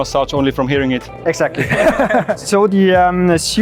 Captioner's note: laughs